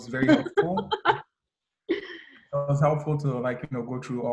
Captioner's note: laughing